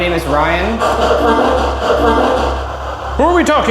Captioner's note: spirit box chattering